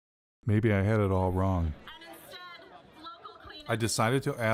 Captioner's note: woman's voice on loudspeaker